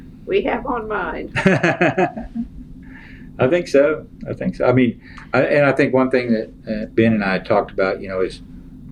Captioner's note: laughs